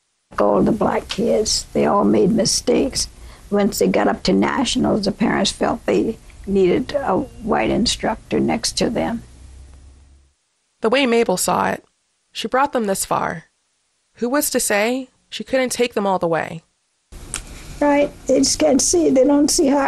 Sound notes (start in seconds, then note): 17.1 soundbite of archived recording